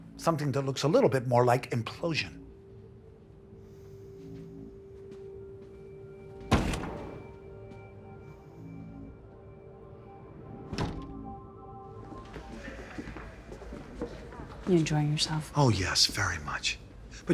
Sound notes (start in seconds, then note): 2.8 quiet dramatic music; 6.4 door slamming